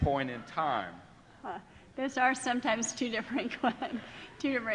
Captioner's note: laughing